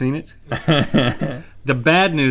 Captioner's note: laughs